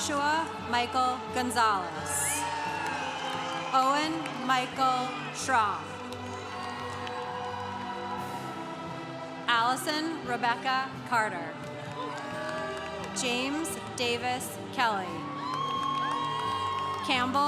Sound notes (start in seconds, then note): 2.4 congregation cheering; 6.4 congregation cheering; 11.7 congregation cheering; 15.0 congregation cheering